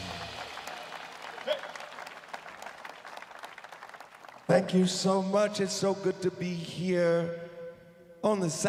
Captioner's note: applause